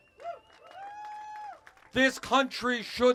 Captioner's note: cheers